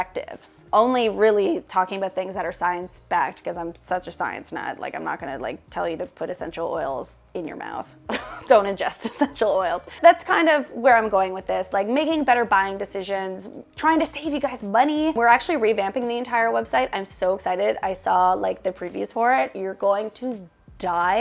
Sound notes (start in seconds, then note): 8.1 chuckles